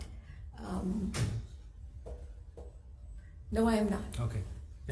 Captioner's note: metallic clangs